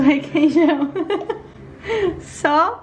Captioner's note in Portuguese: Risos